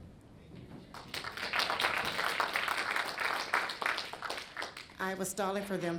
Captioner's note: audience applauds